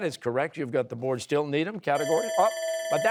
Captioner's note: bell ringing